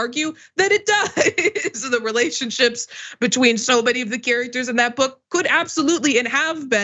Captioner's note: laugh